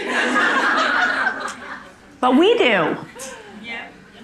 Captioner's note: audience laughing